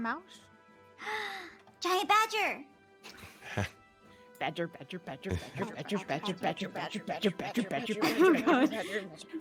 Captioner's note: gasps